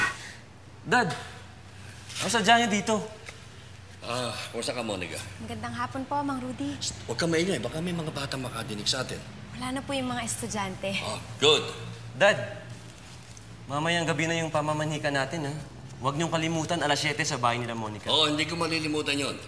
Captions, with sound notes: Dad! What are you doing here? Uh, how are you, Monica? Good afternoon, Mr. Rudy. [shushes] Keep it down. Some kid might overhear us. All the students have left. Uh, good. Dad, we’ll be meeting Monica’s parents tonight. Don’t forget it’s 7:00 at Monica’s house. Of course. I will not forget that.